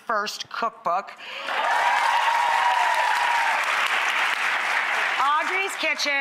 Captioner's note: audience applauds and cheers